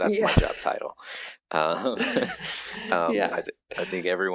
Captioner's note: laughing